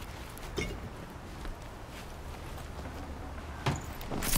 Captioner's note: clanking